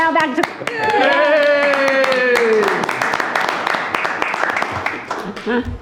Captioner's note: audience applauding